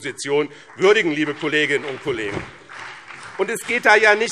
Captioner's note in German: Beifall BÜNDNIS 90/DIE GRÜNEN und CDU